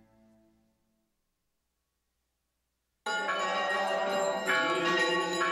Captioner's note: bells ringing; people singing